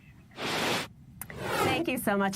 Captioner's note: air whooshing